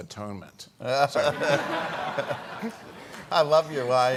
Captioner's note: all laughing